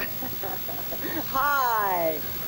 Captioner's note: laughs